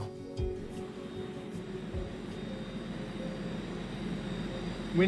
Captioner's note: telescope whirring